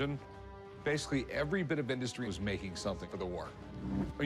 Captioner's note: none